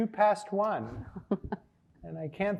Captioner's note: laughing